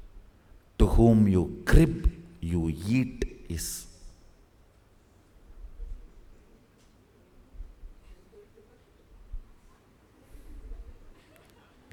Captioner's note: laughs… hhmmm J